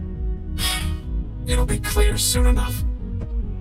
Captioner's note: sighs